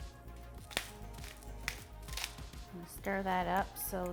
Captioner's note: pepper mill grinding